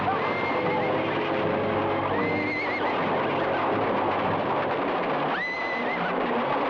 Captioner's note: horse hooves patter; horses whinny